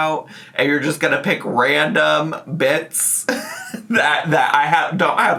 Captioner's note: laughs